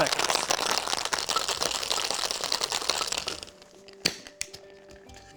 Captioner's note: ice rattling